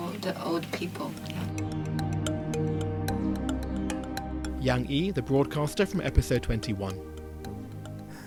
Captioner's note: voiceover